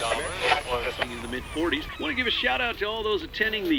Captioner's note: radio dial tuning